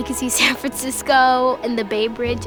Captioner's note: chuckles